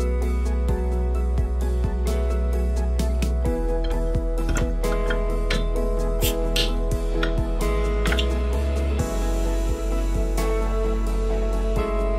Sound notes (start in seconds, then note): 3.5 beer bottle opening